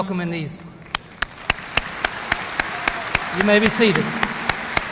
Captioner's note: audience applauding